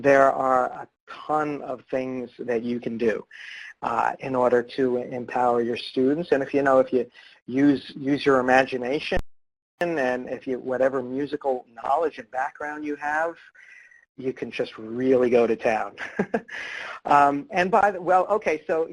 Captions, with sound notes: There are a ton of things that you can do in order to empower your students. If ya use your imagination and whatever musical knowledge and background you have, you can just really go to town. (laughs)